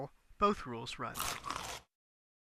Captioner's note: chomp